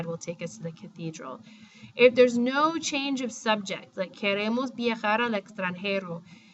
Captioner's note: speaking spanish